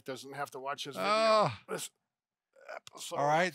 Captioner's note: moaning